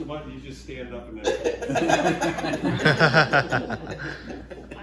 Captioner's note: all laughing again like this